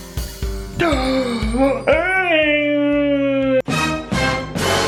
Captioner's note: gasps; dramatic music